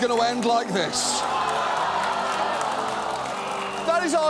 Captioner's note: audience laughs, applauds